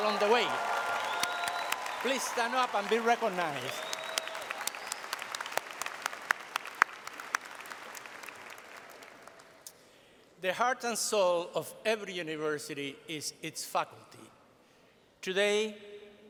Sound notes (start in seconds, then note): 3.5 applause